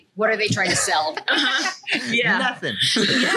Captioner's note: laughs